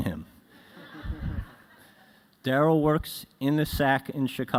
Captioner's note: laughter